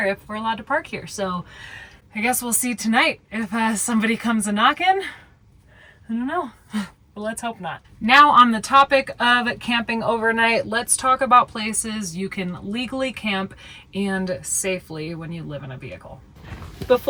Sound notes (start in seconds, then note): none